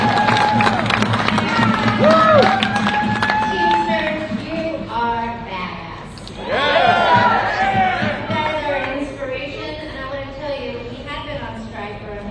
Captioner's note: applause